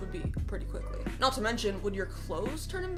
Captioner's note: keeps trying to talk